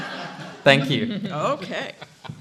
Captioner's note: laughter